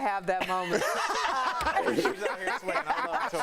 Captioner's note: laughter